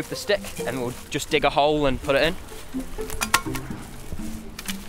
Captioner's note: digging